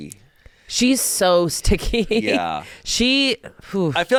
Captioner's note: laughs